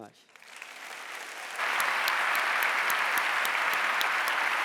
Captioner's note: audience applauding